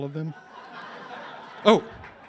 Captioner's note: laughs